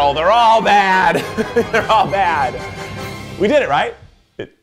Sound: laughs

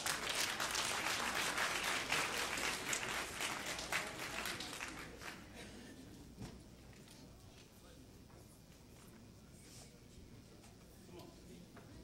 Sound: applause

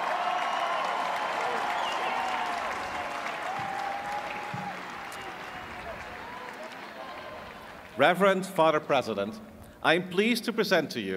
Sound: cheers and applause

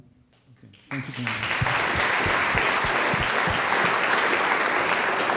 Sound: audience applauds

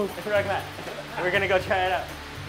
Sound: speaking foreign language

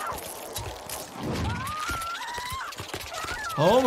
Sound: fighter 2 groans; fighter 2 screams

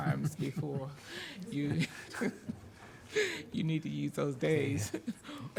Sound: chuckles

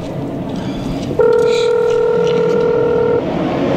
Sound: phone ring

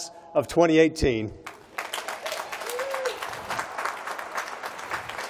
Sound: applause

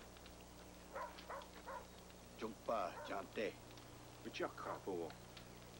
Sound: speaking Sioux

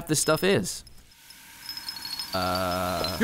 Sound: hissing sound

